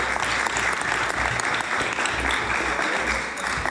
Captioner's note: applause